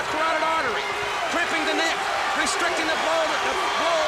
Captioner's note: crowd cheering